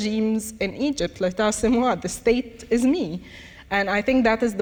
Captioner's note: speaks in foreign language